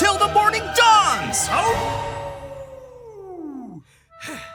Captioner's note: Jimmy howls